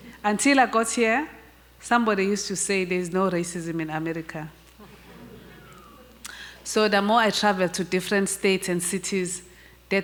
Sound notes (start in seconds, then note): 5.1 murmurs, faint whistle in audience